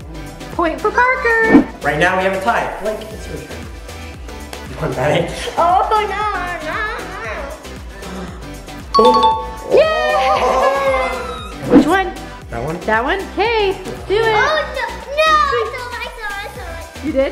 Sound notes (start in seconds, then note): 8.0 laughing; 8.9 digital dinging; 9.7 girls screaming; 10.1 laughing